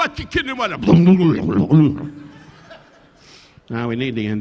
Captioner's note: Don speaking in native language; Don glugging alcohol; audience laughing